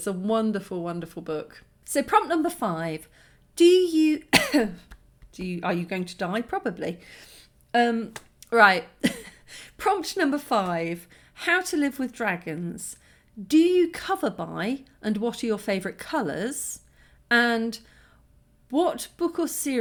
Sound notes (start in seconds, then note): 4.3 cough